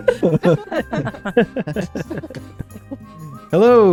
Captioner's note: laughter